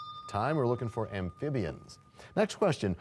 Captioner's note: bell rings, time expires